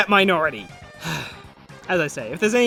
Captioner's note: albeit smaller sigh